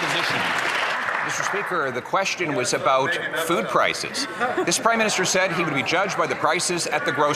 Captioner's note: some Applause